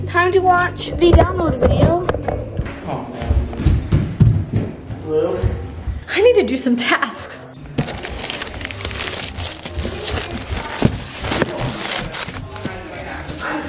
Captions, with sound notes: Time to watch the download video. - Blue! - I need to do some tasks. (package rustling)